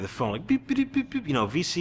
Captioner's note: imitates beeping